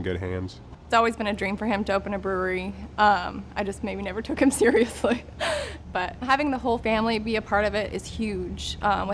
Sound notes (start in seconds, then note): 4.3 laughs